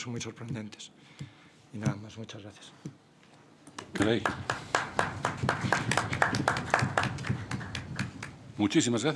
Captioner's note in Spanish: Aplausos